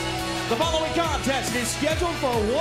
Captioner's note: bell ringing